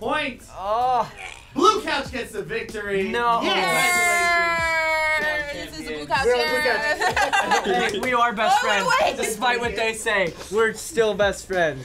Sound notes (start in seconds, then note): 6.7 laughing